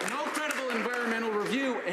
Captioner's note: some Applause